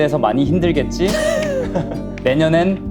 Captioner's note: haha